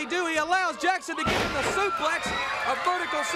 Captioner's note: crowd cheering